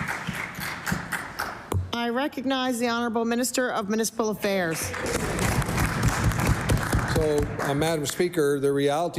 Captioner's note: some Applause